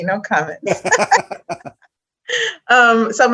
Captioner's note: laugh